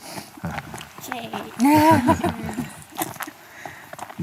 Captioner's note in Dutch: gelach